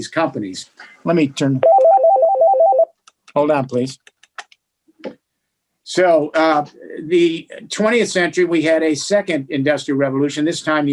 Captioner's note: phone ringing